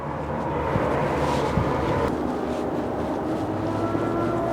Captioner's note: engines humming